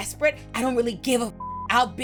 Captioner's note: beep